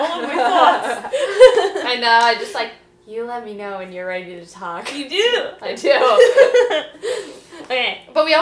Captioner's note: both laughing; both laughing